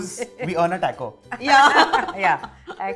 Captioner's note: chuckles